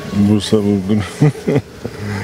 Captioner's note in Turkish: Gülme sesi